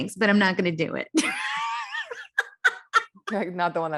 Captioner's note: laughs